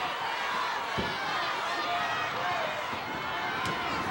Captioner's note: audience chattering